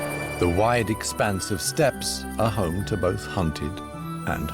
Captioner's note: none